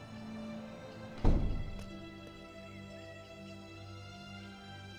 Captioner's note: door closing; soft dramatic music